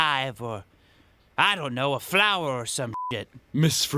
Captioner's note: beep